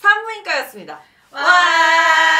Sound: cheer

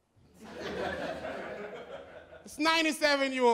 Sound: laughter

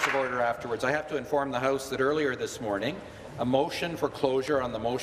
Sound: applause

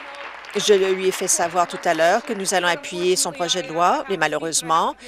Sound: some applause

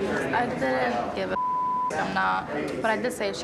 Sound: beep

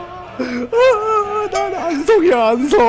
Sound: crying

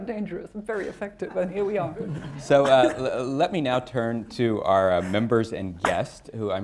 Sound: laughter

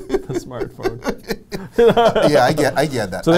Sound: laughs

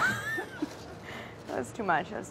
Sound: laughing

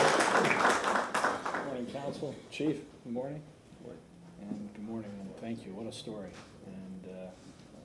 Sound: applause

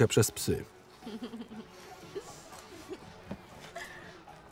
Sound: giggles

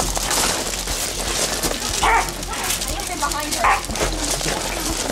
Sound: barks

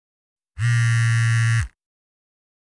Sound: phone vibrating again

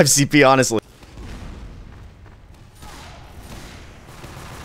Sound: guns firing

